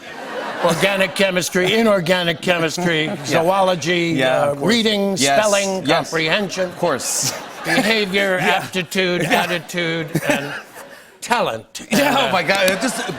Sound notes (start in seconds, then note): 6.5 laughter